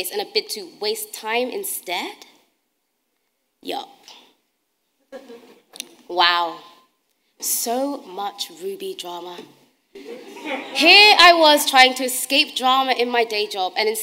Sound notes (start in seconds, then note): 10.0 audience laughing